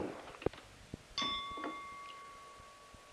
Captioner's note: bell Sound